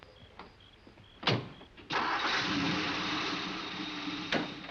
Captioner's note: door close, car starts